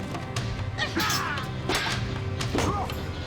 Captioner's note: metal clanging